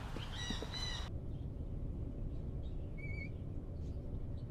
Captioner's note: chirping birds